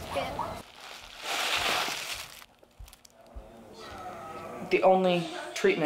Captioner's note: candy rattling